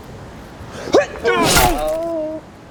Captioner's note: gross stabby noises